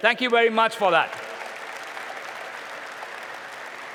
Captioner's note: applause